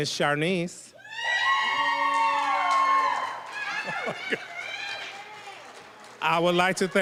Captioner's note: cheering, applause